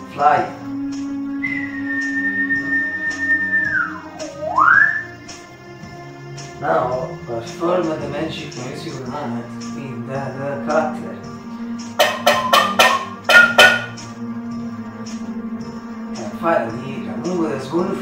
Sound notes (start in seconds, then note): 5.0 whistle; 12.3 whistle